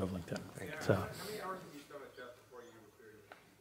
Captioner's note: voiceover